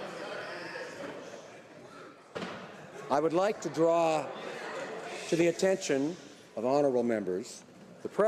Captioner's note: speaking French